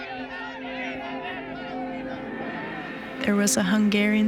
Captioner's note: voices clamoring